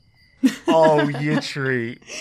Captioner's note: laughs